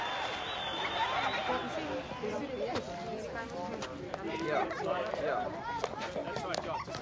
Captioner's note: murmurs